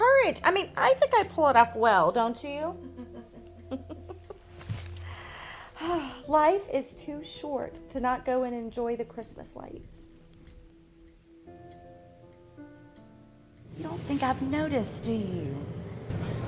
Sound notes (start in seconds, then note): 2.7 Marita laughing